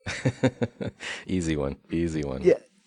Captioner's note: laughs